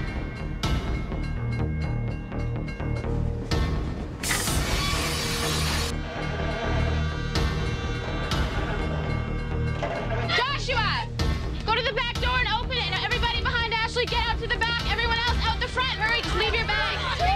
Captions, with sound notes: (Train screeches) Joshua! Go the back door and open and everyone behind Ashley to the back! Everyone else out the front, hurry! Leave your bags!